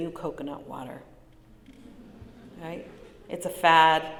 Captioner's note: light laughter